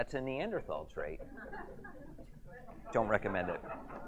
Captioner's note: audience chuckles